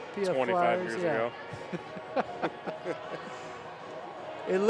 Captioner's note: laughter